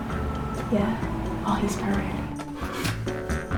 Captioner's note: whispering